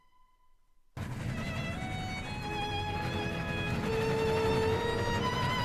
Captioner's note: the train chugs, cruising at a sweet 0MPH